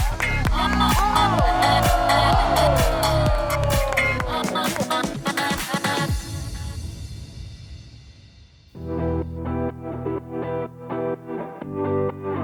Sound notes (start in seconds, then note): 2.1 crowd cheering; 9.6 upbeat music